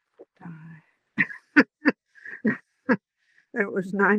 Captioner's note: laughs